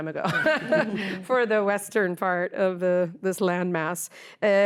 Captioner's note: laughter